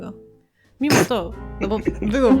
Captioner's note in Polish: śmiech